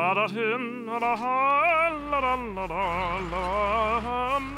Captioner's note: humming To Himself